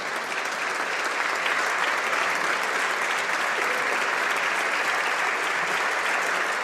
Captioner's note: applause